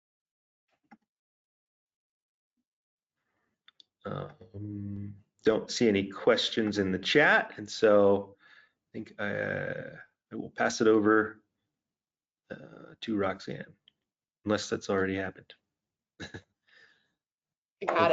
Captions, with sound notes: (hums) Don't see any questions in the chat. And so I think I will pass it over to Roxanne, unless that's already happened. (laughs)